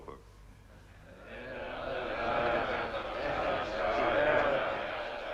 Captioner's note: chieftains chattering